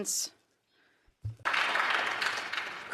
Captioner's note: applause